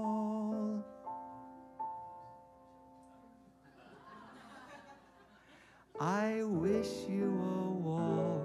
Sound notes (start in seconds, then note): 1.0 audience laughs